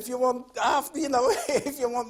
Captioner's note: laughs